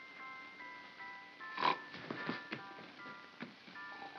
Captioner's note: Stan snores; soft nursery music